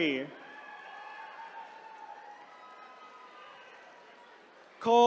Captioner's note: attendees cheering